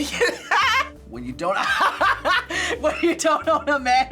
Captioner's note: laughs